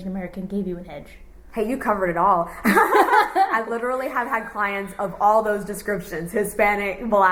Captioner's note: laughs